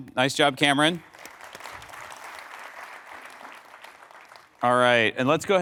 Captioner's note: applause